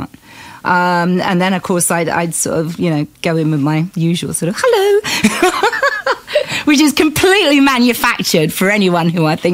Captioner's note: laughs